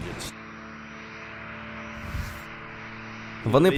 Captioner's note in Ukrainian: шум двигуна літака